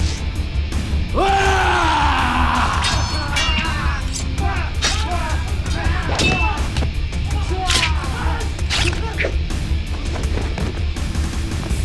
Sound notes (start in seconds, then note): 1.2 yelling